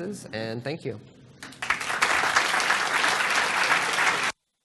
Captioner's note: applause